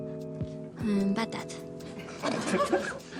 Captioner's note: French